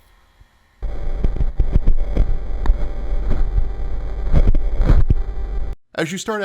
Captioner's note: low static hum